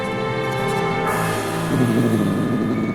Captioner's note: growls